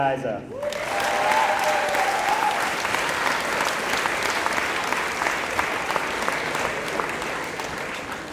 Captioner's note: applause